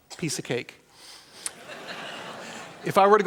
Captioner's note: laughter